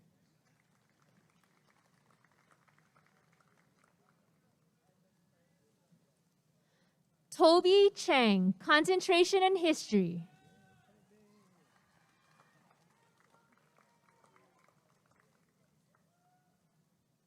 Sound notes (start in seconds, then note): 0.3 applause and cheering; 11.3 applause and cheering